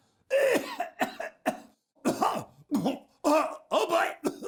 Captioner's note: coughing